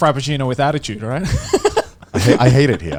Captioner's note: laughing